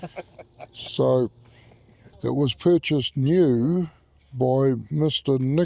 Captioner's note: man laughing